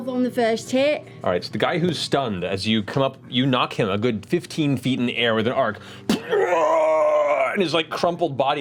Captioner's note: shout